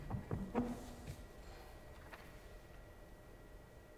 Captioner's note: chair scraping